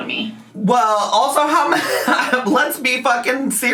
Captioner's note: laughs